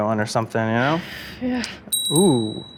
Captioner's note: sighs; bell dings